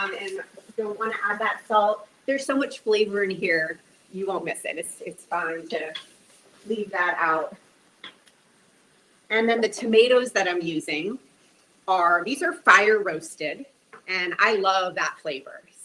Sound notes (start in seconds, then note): none